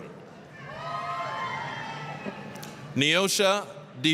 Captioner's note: applause, cheering